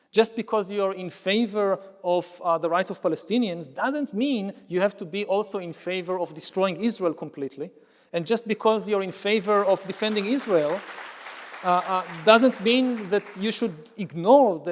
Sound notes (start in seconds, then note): 10.7 audience applauds